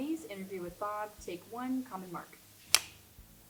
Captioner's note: slate claps